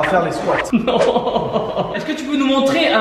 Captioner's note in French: rire